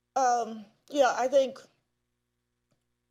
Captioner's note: none